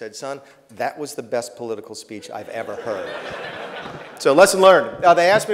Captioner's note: laughter